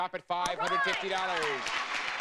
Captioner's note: audience applauding